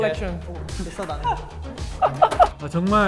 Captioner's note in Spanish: Jajaja